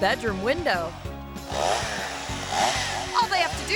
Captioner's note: chainsaw buzzing